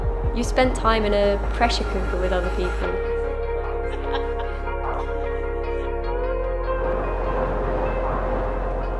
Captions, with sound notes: You spend time in a pressure cooker with other people. (woman laughing) (gentle music)